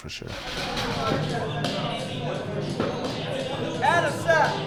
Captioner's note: group chattering